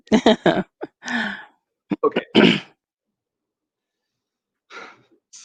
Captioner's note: laughter